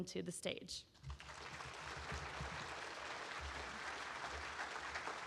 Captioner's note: audience applauding